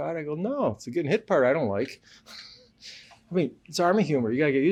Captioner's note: laughs